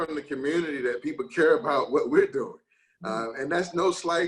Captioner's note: chuckles